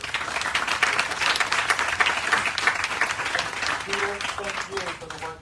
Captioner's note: applause